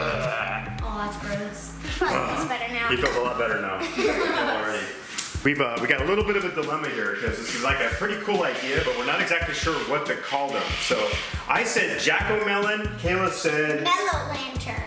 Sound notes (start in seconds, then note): 3.8 laughing